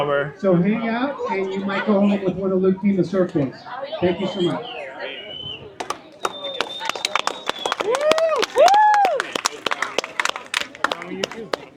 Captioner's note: crowd cheering